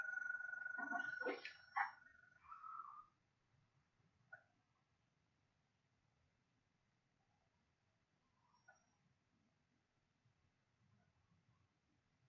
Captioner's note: very quiet intermittent tinkling noises